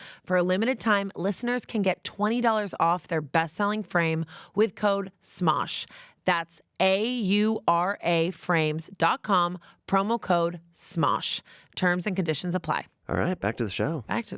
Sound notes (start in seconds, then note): none